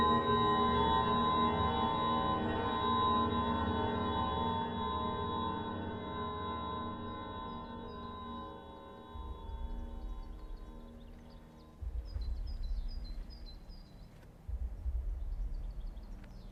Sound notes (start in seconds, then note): 0.4 soft intense music continues; 10.1 birds chirping; 10.1 gentle tense music